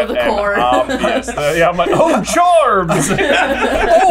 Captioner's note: laughter